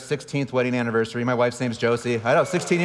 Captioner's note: audience applauding